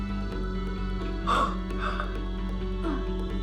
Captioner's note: exhales sharply